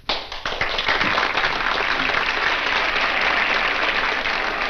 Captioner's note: audience applauds